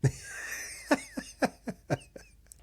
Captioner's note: laughing